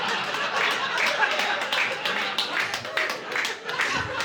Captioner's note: applause